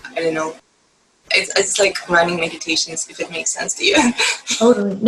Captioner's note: laugh